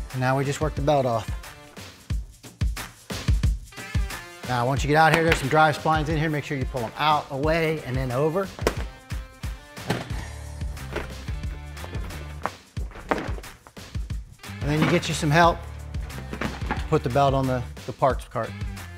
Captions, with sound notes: And now we just work the belt off. (upbeat music continues) Now once you get it out of here there's some drive splines in here. Make sure you pull them out, away and then over. (belt rustles) And then you get you some help. Put the belt on the parts cart.